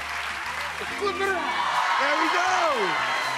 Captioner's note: audience cheers